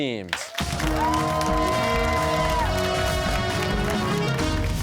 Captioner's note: cheers and applause